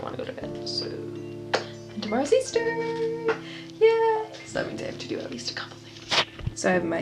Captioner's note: lip smack